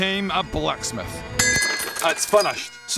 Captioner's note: ding!